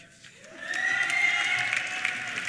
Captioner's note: applause; cheers and whistles